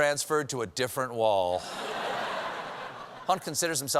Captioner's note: laughter